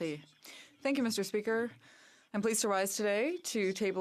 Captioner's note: speaking French